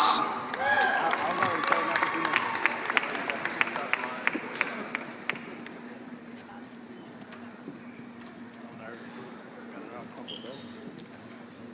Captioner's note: applause